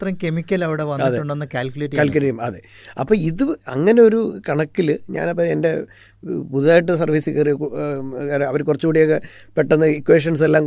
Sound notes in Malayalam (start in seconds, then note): 1.9 തൊണ്ട ശരിയാക്കുന്നു